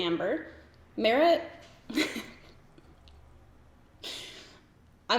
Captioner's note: giggles